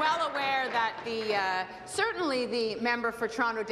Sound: applause

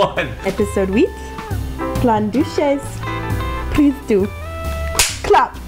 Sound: speaking_french

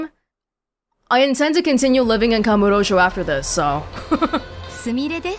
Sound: chuckles

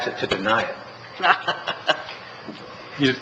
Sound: laughter

